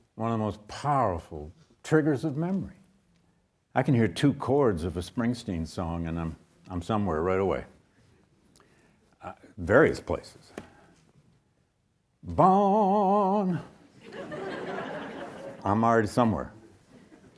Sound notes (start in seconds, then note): 14.0 audience laughs